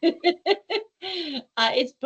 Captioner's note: laughing